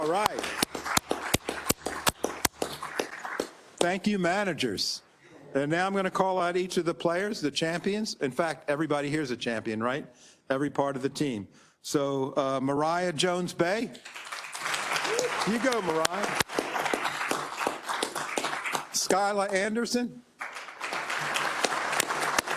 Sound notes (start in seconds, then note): 0.0 applause; 13.9 applause